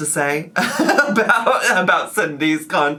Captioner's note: laughs